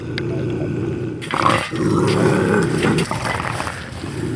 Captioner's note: bobcat growling